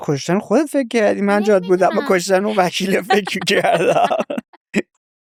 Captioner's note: laughs